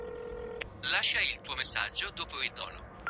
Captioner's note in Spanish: En italiano